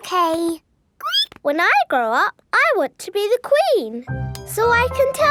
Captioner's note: squeaks